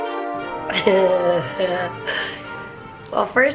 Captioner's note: giggling